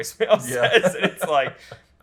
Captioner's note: laughs